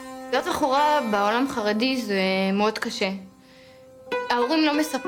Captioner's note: speaking in foreign language